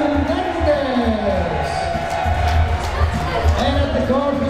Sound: crowd members cheering

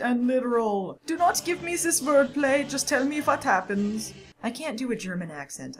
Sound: in a bad German accent

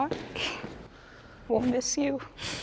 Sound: receding footsteps

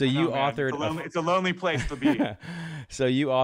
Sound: laughs

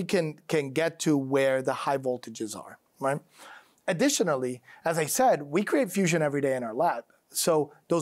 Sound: none

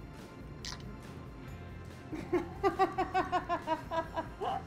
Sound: laughing

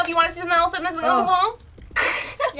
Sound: laughs

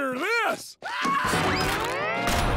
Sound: screaming

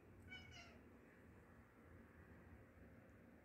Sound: meowing at moth

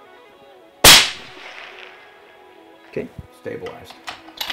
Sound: fires gun

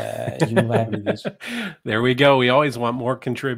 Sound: chuckles

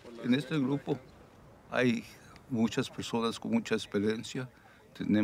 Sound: crew member speaks Spanish

